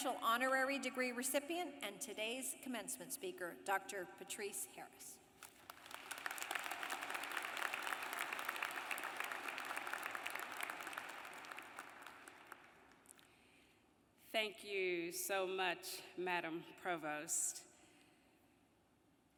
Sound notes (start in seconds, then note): 13.5 applause